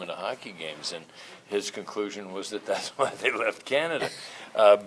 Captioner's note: laughs